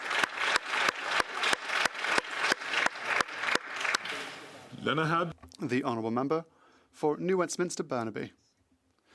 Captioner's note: applause